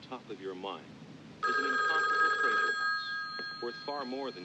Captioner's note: telephone rings